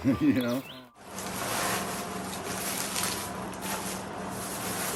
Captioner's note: paper rustling